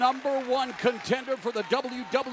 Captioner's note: crowd cheering